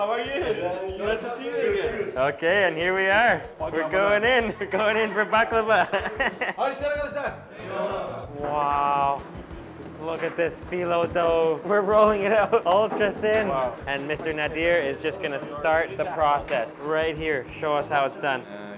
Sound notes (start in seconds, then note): 1.2 speaking foreign language; 5.9 laughs; 6.8 speaking foreign language